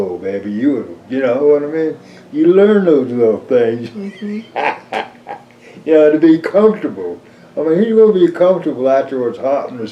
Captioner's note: laughs